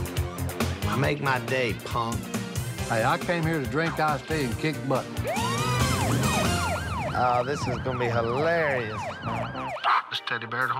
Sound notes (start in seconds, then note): 5.1 siren; 7.8 imitates radio static